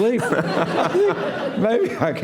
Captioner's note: laughter